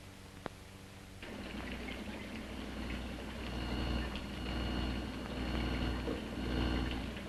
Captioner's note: machines whirring